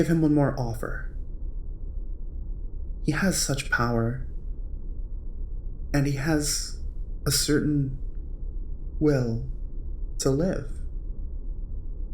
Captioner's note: Owen Wilson noises here